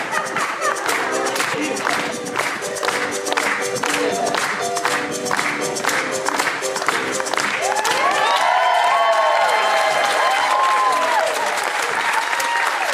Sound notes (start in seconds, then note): 8.0 audience applauding